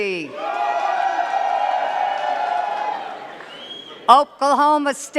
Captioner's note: cheers and claps